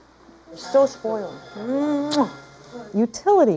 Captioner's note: kissing